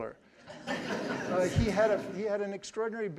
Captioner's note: audience laughing